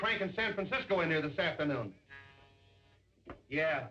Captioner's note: buzzer